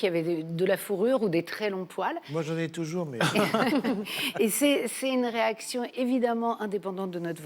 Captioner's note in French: rires